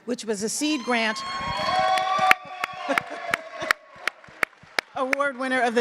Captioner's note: audience claps and cheers; laughs